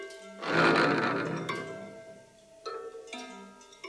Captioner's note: motor turning